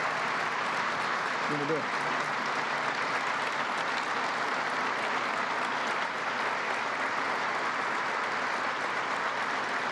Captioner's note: applause